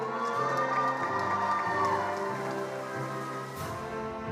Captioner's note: attendees applauding